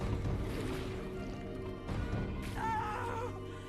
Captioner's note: screaming